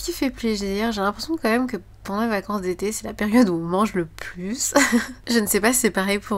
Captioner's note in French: rires